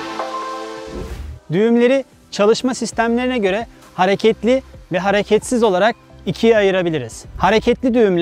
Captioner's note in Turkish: statik